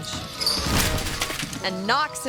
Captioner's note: bike clatters; body thuds